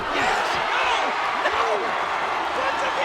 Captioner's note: audience cheering and clapping